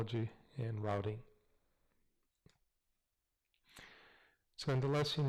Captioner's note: pause